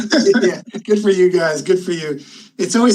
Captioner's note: panelists laughing